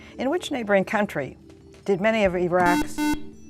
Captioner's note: buzzer